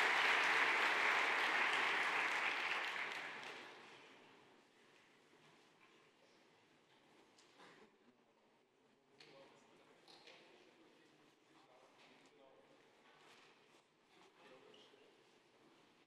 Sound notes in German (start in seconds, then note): 3.8 Beifall